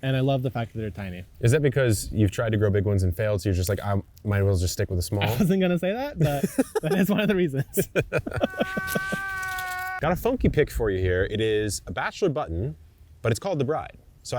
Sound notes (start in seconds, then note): 6.2 laughing; 8.3 screen wailing; 8.4 laughing